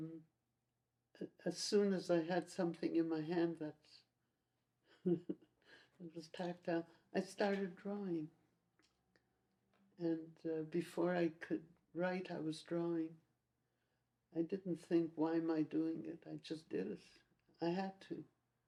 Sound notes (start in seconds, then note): 5.0 laughs